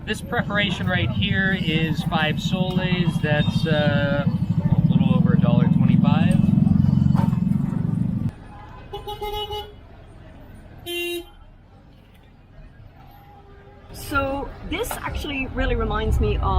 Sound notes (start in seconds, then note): 8.8 car horns beeping